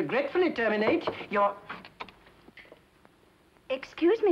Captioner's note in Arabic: طرق الباب